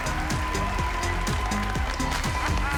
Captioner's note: laughs